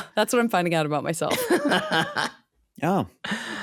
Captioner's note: laughing